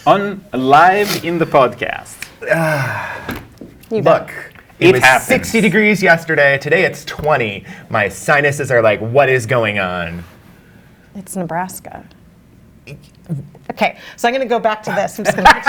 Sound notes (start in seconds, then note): 2.4 groans